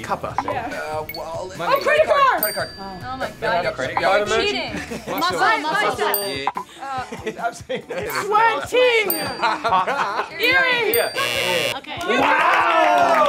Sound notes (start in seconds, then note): 6.5 bell dings; 10.4 buzzer blares